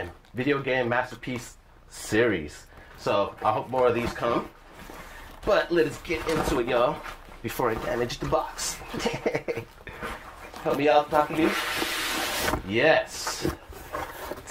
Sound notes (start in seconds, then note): 8.9 laughter